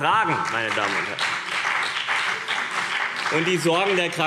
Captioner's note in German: Beifall CDU und BÜNDNIS 90/DIE GRÜNEN